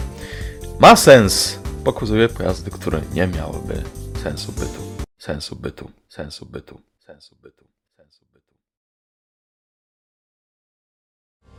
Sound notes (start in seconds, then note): 5.2 echo effect* no justification x3